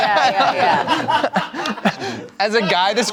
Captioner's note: everyone laughs